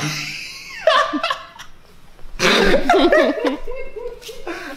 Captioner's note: laughing